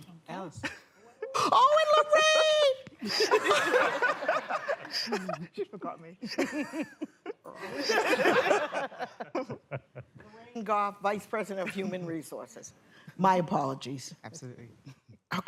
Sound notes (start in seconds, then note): 3.0 laughter